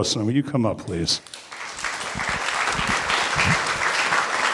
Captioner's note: applause